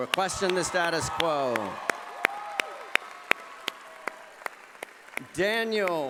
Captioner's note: cheering and applause